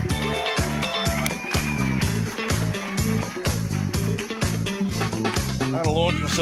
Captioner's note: audience applauds; upbeat music